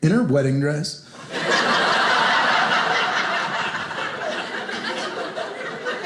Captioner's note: audience laughing